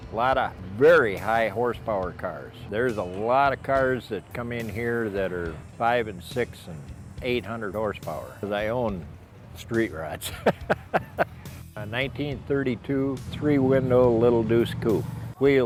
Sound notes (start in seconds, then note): 10.2 laughs